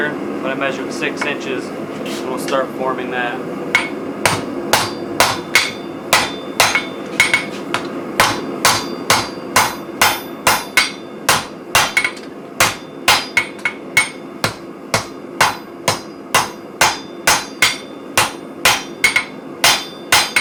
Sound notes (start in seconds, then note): 4.5 hammering steel